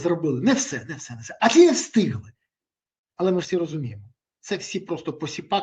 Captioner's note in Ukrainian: сміх